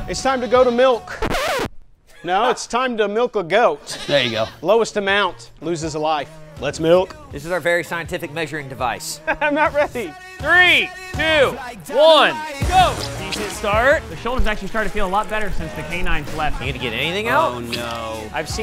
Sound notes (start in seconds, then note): 1.0 record scratch